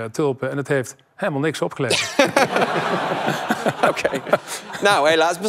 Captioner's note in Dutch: gelach